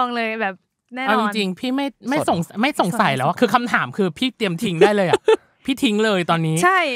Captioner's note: laugh